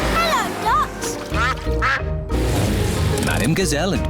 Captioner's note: quacking